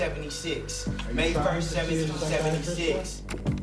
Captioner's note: indistinct chatter